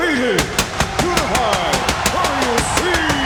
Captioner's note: fireworks popping